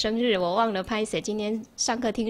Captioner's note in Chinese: 台語